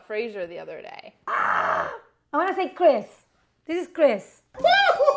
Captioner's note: squeals; dinging